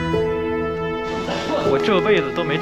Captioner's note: cough